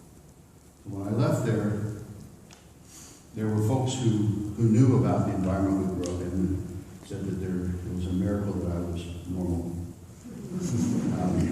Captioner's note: laughter